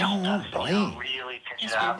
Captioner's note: on phone